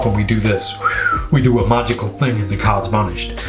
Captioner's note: whistling